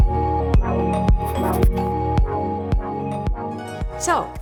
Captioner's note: text scribbles